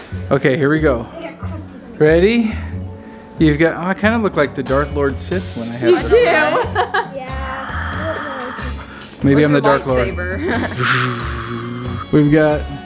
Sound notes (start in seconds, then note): 6.2 murmurs; 6.2 laughs; 10.4 laughs